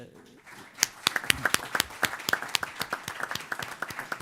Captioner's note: applause